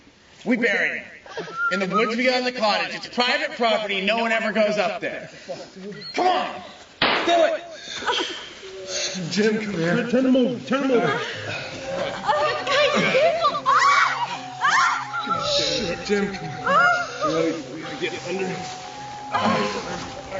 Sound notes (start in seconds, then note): 12.4 confused speaking